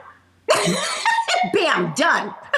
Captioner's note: laughing